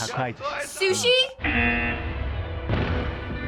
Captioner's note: buzzer